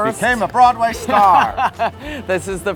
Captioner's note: Matt laughs